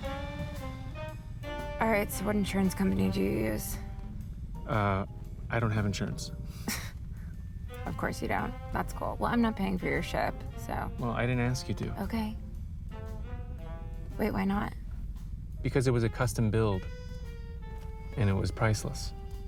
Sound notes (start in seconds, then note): 6.4 scoffs